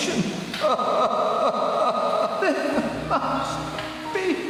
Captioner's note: man cries